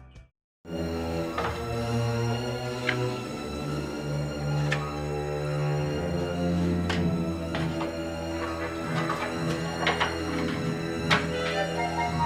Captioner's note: letters being organized